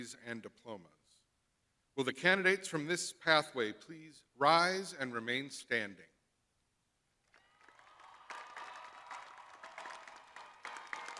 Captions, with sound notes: please rise and remain standing? (crowd applauding)